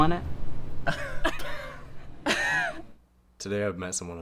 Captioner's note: both laughing